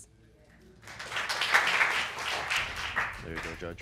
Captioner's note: audience applauding